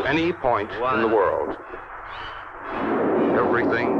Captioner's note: rocket rumbling